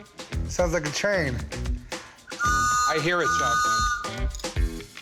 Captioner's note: toot toot